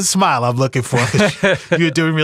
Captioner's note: laughing